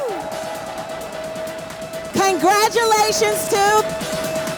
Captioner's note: crowd cheers